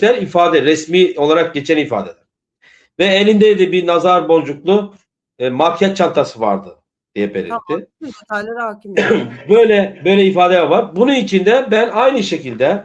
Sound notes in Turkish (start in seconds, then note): 8.0 homurdanır